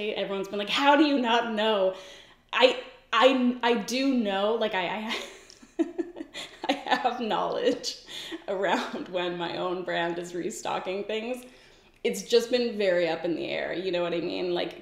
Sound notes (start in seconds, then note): 4.8 laughing